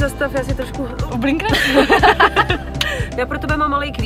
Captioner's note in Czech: Smích